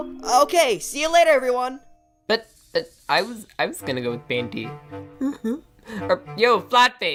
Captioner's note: whimper